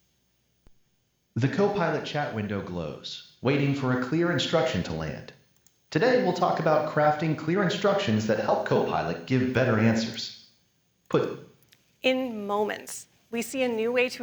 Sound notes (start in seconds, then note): none